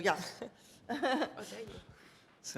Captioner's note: laugh